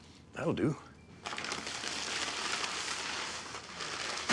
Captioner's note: bag rustling